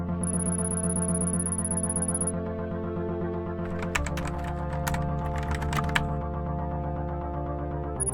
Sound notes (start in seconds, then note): 0.4 computer bleeps rapidly; 3.6 keyboard clacks